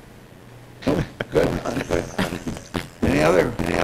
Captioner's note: laughter